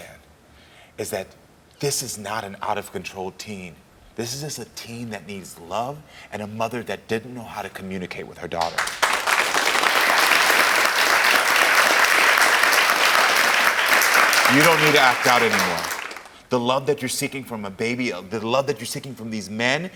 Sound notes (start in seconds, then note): 8.6 audience applauding